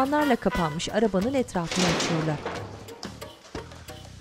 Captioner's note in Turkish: Kapı sesi